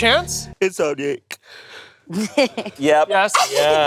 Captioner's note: yawning